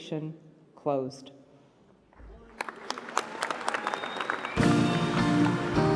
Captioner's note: applause